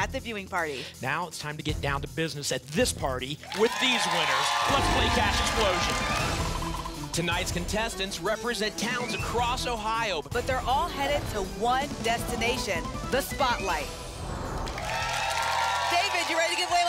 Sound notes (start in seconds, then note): 5.8 applause and cheering; 14.5 applause and cheering